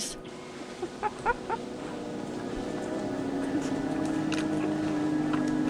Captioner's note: laughs